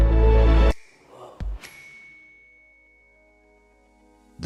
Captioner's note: bell dings; soft dramatic music